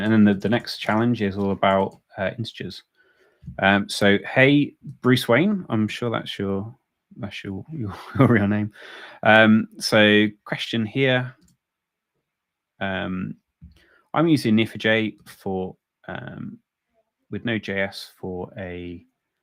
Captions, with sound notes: And then, the next challenge is all about integers. So, hey, Bruce Wayne. I'm sure that's your real name. (laughs) So, question here, "I'm using Neo4j with Node.js for a